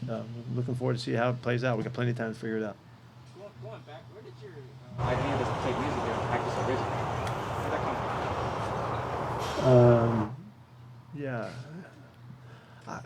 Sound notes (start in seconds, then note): 5.0 background buzzing